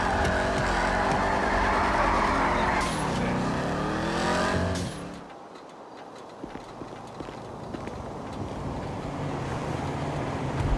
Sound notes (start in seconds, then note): 2.2 loud tyre sounds